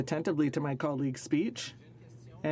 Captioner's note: speaking French